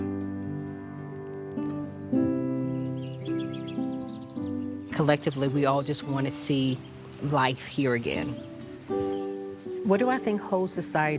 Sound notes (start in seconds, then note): 2.5 birds singing; 2.5 peaceful music continues